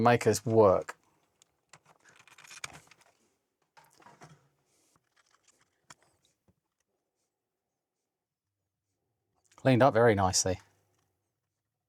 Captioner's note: silence